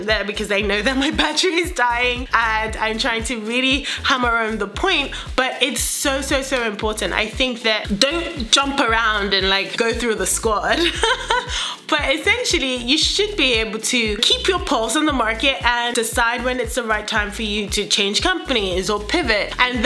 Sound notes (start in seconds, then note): 10.8 laughs